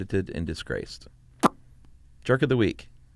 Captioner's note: smacks lips